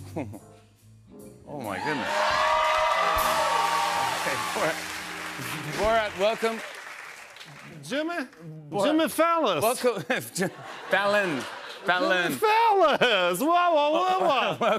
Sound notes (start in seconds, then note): 0.0 chuckles; 1.8 cheers and applause